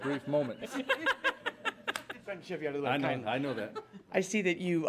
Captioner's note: laughter